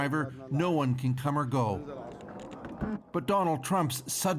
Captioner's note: speaking Alternate Language